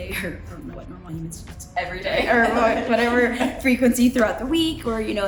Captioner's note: background laughing: every day